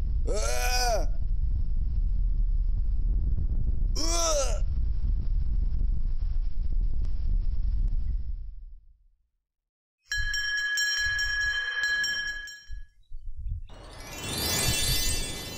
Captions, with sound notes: Arrrrrgh! [Explosion Rumbling] Uggggggh! [Explosion Rumbling] Ding! Ding! Ding! Ding! [Magical Music]